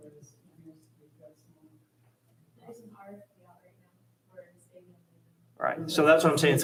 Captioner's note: hushed speaking away from microphone